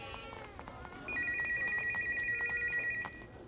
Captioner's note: Phone ringing